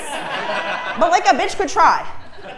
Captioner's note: laugh